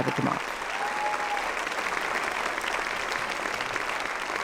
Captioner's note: audience applauding